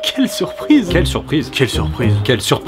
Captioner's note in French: Monotone; Enjoué